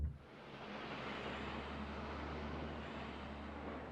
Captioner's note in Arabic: اهتزاز السيارة